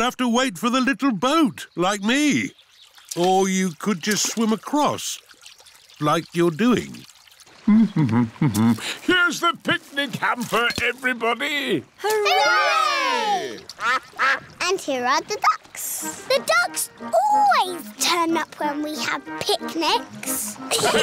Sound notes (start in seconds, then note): 8.0 hums; 13.7 quacking; 20.7 laughter